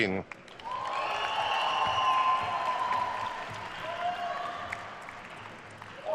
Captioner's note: attendees cheering and applauding